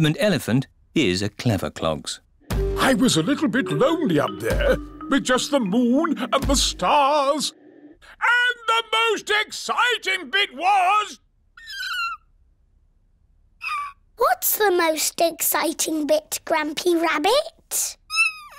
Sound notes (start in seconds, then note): 11.6 squeak!